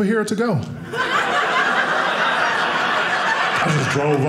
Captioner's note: audience laughing